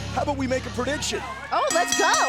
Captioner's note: bell ringing